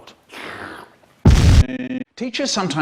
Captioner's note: boom